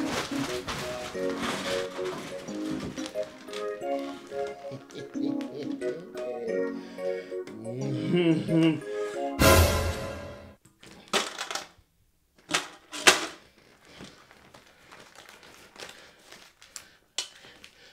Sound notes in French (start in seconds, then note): 4.7 rires